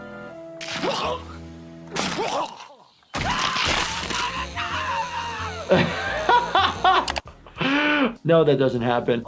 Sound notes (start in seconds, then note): 0.8 Lumpy retching; 3.1 Lumpy screaming; 5.5 laughing